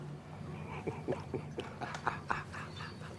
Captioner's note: laughs